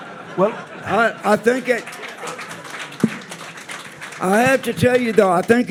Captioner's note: audience applauding